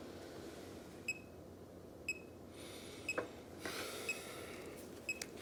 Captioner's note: wristbands beeping